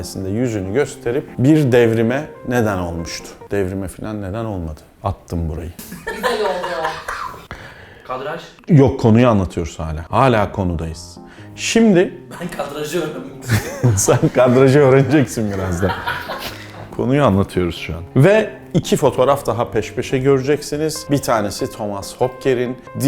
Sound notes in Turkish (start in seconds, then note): 5.8 Gülüşmeler; 13.4 gülüşmeler